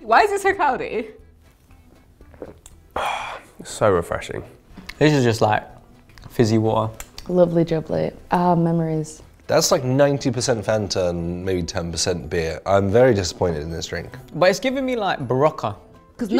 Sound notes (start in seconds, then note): 2.2 glugs